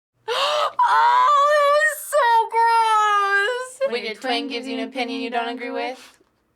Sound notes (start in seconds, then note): 0.2 gasps